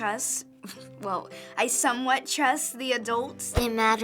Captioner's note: scoffs